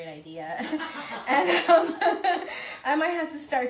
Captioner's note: laughing